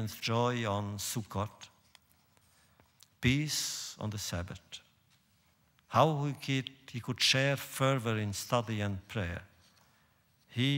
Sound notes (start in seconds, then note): none